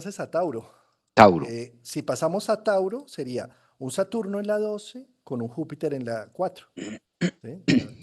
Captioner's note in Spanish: carraspeo